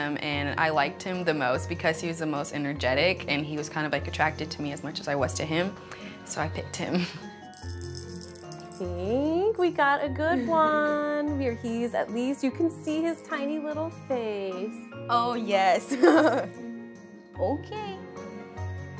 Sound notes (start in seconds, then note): 15.9 laughs